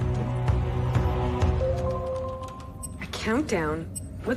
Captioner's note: chiming